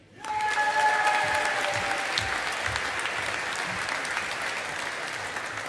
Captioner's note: audience applauding